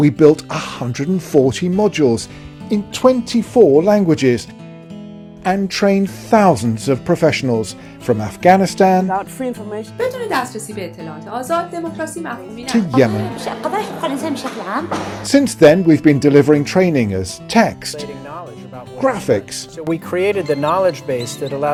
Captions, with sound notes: We built 140 modules In 24 languages And trained thousands of professionals… from Afghanistan (speaks Pashto) to Yemen (speaks Arabic). Since then we’ve been delivering training as text… Graphics…